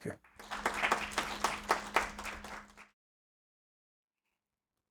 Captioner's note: audience applaud